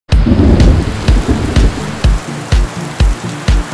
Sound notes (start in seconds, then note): 0.1 thunder and rain; 0.1 instrumental music